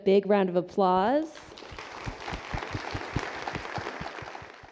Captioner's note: applause